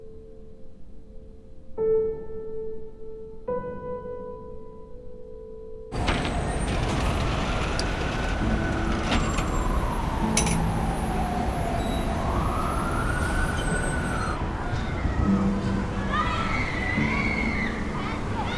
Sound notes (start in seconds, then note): 5.9 door thudding; 7.7 steel shutter rattling; 10.1 sirens wailing in distance; 15.5 children playing